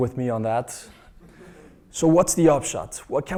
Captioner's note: laugh